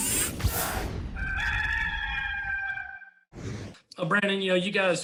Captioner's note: rooster crow